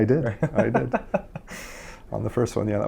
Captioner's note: interviewer laughs